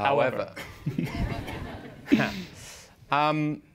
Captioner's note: laughter